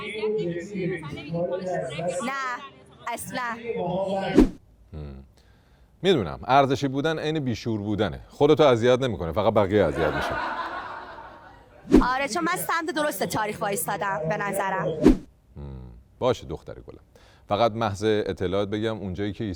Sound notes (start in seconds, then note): 9.8 laughter